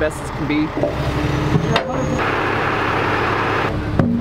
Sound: engine roars

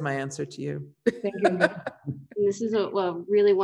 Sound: laughs

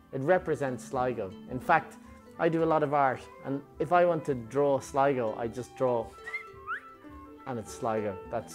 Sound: whistle

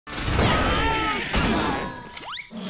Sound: screaming

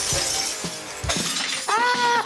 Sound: breaking glass

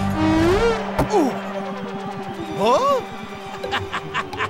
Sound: grunting; laughing

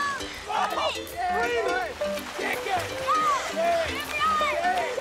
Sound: people cheering

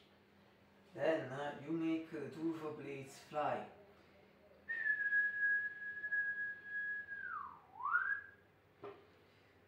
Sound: whistle

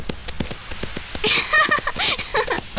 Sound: laughing

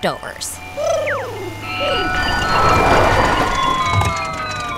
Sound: soundbite of ice cream truck

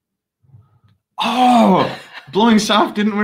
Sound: bottle echos

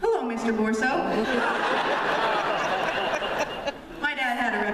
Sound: laughter

